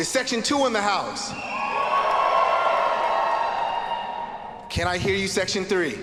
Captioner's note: students cheering